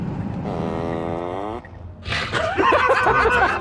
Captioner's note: turn Signal Farts